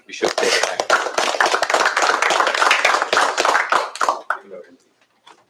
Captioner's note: applause